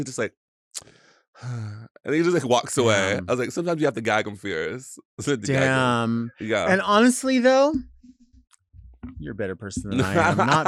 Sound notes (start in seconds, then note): 1.4 sighs